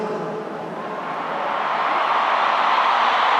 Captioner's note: applause